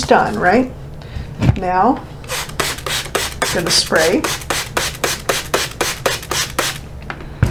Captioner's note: water sprinkling